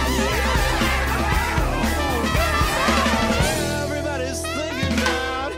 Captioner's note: beeps